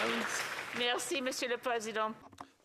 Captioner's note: applause